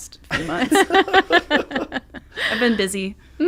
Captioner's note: laughing